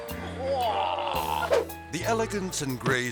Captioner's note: man groaning; air swoosh